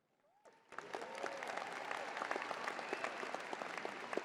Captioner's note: crowd applauding